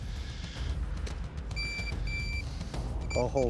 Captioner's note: beeping